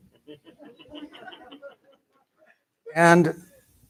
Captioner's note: laughter